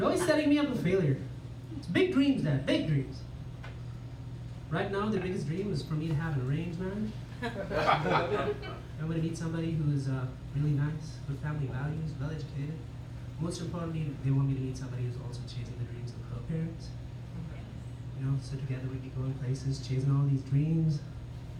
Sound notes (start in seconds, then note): 7.3 laughter